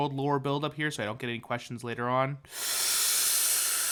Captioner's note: inhale